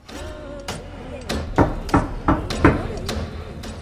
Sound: knocking on door

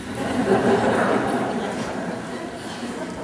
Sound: laughter

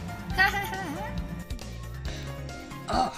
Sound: Keyon laughs

